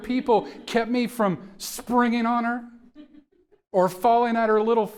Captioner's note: audience members chuckling